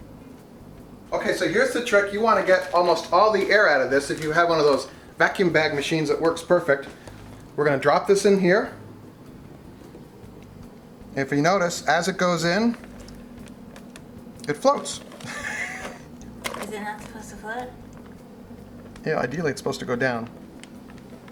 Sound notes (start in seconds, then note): 15.2 chuckling